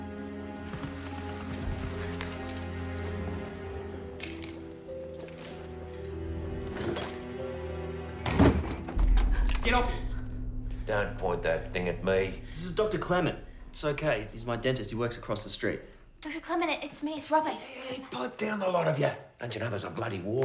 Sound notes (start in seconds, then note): 9.2 robyn gasps